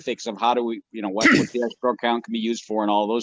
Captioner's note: participant sneezes